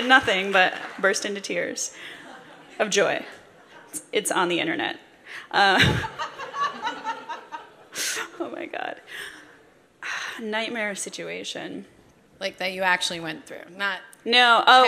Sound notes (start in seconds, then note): 5.6 laughter